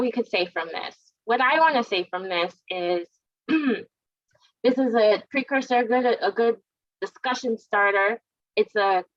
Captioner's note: cough